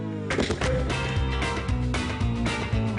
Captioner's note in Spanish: Estruendo